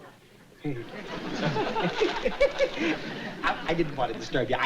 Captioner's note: chuckling